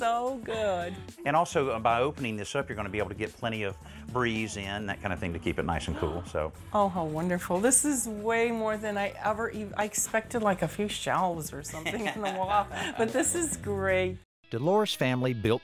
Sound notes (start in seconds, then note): 11.7 laughing